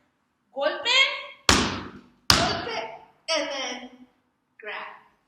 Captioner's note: two Stomps